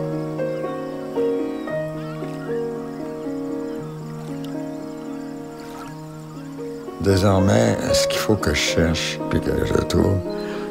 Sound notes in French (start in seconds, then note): 1.5 stridulations d'insectes; 3.9 pépiements d'oiseaux